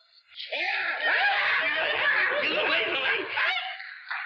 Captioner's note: Moe screaming